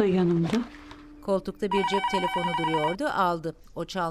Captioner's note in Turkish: Telefon zili sesi